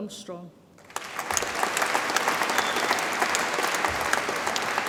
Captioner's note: audience applauds